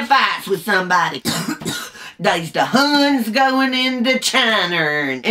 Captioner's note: coughs